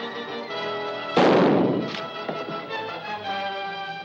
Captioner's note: gun firing